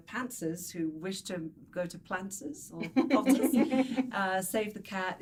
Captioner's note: pleasant laughing